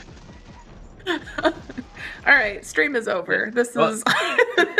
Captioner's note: laughs